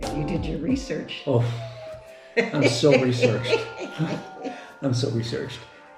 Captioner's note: laughs